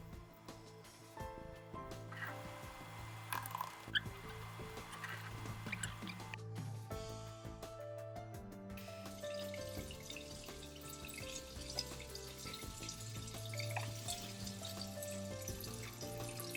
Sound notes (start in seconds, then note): 4.4 soft music playing; 10.7 sound of running water